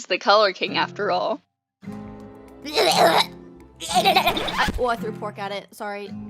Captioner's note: makes fake vomiting noises